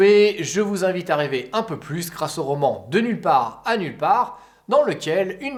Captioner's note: only in French